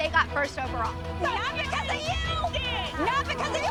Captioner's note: yelling